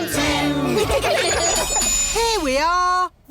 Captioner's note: laughter